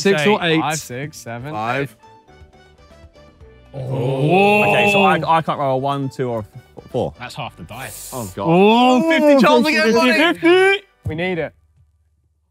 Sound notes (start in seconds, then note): 8.5 both groaning